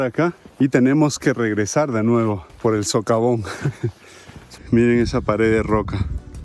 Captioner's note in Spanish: risas